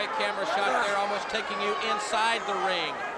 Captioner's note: crowd chatter